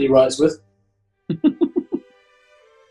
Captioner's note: giggling